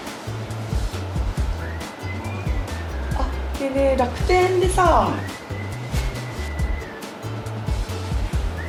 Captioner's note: laughs